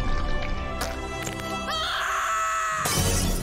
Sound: screaming

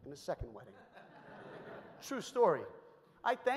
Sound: audience laughs

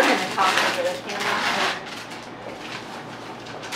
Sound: paper rustling

